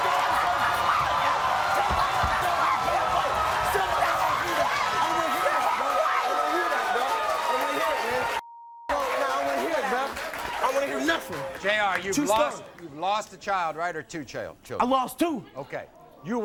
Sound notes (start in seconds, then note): 0.0 screaming; 0.0 audience cheers; 8.4 beep